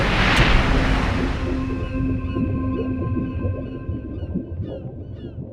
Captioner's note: dramatic sonar ringing